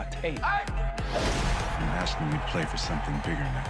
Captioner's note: smoke blasts